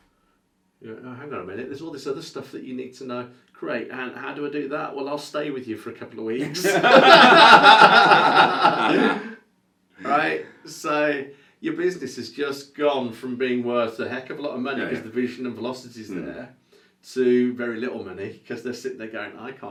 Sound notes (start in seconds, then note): 6.4 laughs